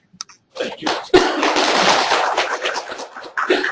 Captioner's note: applauding